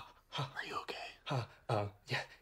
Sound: whispering

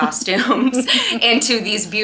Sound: people laughing

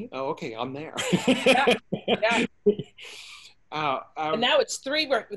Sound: laughing

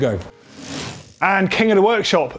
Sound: quick rattle

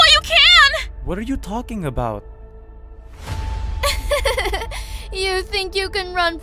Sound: evil chuckle

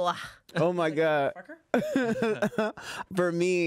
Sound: laughs

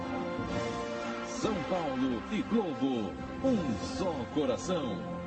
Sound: male announcer speaking Portuguese

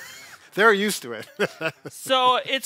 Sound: laughs

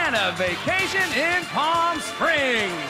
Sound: cheers and applause

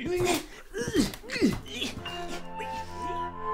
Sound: grunting; sad music

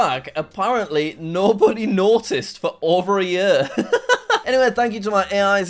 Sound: laughs

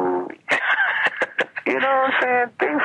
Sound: laughing

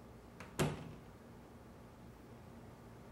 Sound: door closes

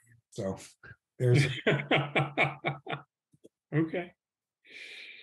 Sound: laughing

